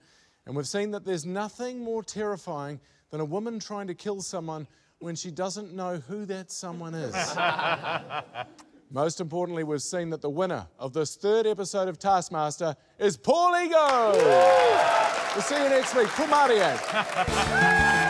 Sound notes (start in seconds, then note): 7.1 laughter; 13.9 cheering, applause